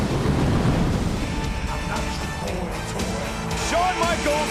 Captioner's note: pyro booming